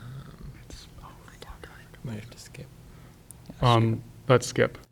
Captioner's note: indistinct conversation